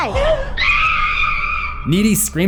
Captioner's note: screams